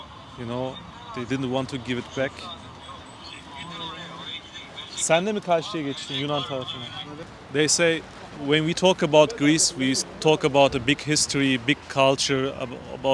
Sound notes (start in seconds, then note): 5.0 speaking in foreign language